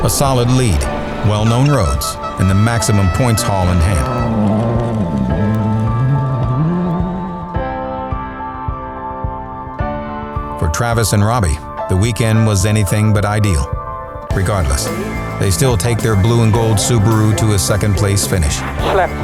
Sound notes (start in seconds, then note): 4.2 engine revving; 4.2 thoughtful piano music